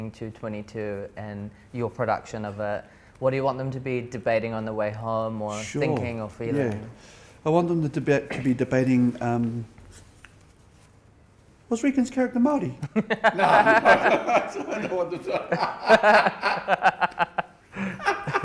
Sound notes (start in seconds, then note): 12.8 laughs